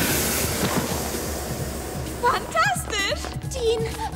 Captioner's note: whoosh